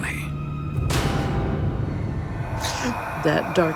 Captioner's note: gasps